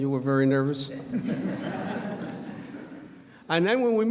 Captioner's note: audience laughs